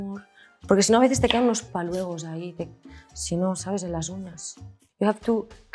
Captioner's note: speaks in Spanish